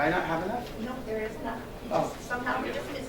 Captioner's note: woman's Voice